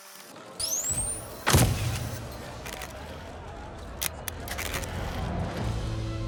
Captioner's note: tape noise; crowd noise; camera flashes